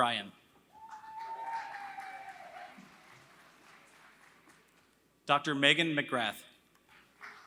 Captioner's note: applause; applause